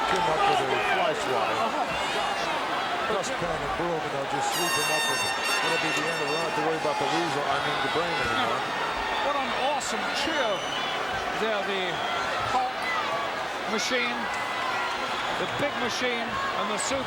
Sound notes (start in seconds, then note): 2.2 gorilla speaks faintly